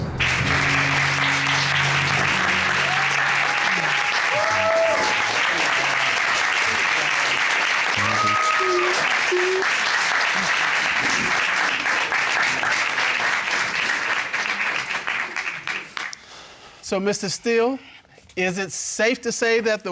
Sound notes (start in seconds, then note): 0.2 applause; 2.9 audience cheer; 8.0 sobbing; 8.1 murmurs